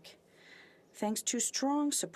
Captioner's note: speaking French